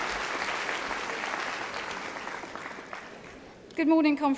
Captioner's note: applause